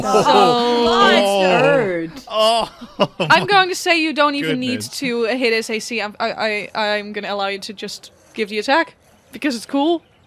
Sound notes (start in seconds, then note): 2.6 laughs in relief